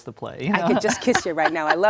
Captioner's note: laughs